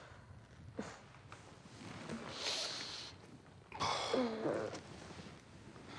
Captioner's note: groans; homer sighs; groans